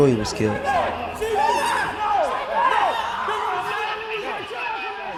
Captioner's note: people screaming; police radio